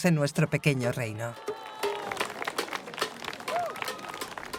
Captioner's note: crowd cheering